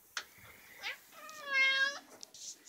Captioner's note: friendly: meow